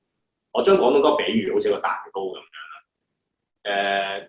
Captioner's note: Cantonese